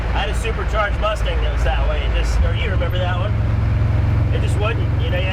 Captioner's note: car engine roaring